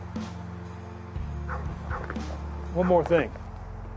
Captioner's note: dog barking